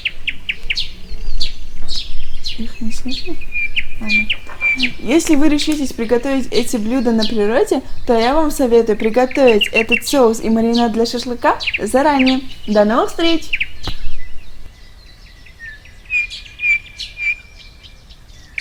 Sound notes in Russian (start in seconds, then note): 0.0 смеется; 0.7 голоса птиц